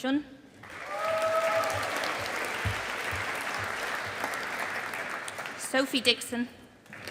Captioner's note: audience applauding